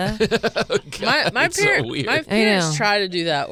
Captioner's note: laughing